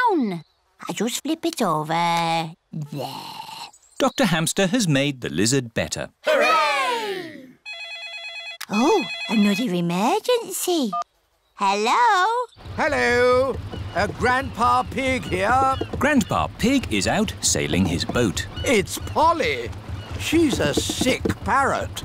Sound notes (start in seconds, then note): 7.6 phone rings